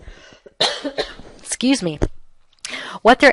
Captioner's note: coughing sounds